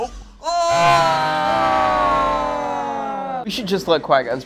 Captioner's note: groaning